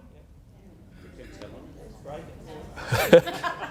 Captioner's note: laughs; crowd: Murmurs